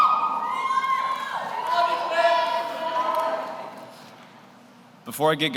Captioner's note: audience shouts; audience cheers